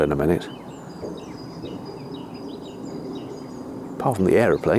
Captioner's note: birdsong